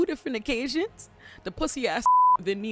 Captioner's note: beep